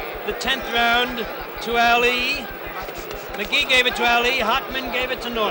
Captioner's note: bell sounds